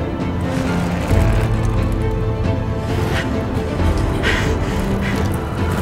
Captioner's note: cyclists whooshing; cyclists gasping